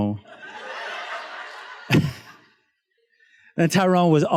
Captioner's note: students laughs